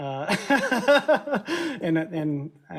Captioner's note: laughs